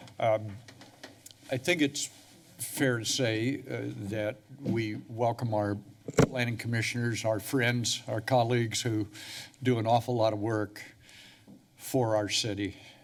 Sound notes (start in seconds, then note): none